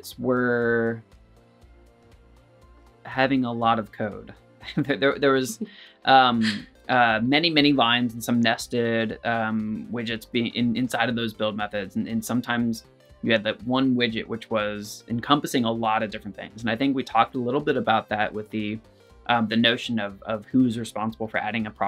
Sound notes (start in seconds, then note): 4.7 laughter